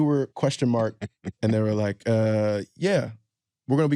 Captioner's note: laughs